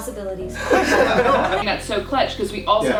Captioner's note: laughs